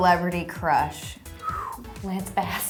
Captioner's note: whistling sound